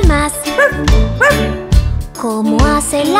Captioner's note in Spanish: Ladrido